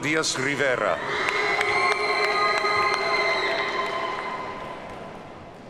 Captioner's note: audience cheers and applauds